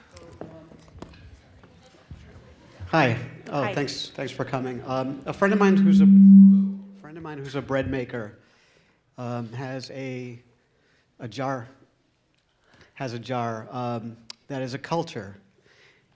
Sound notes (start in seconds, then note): 0.0 background chatter; 6.3 static noise